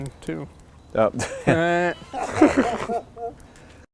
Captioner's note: laughs